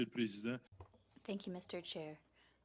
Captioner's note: speaking French